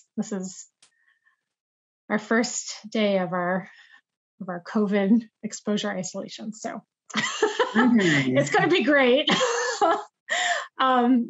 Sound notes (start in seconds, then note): 7.2 laughs